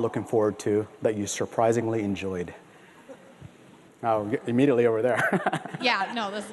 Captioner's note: laughter